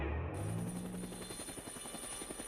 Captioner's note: whirring